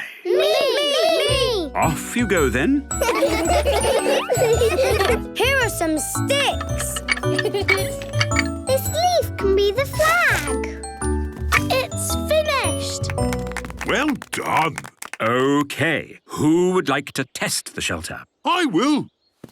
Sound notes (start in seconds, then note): 3.0 laughter; 7.5 laughing; 12.8 applause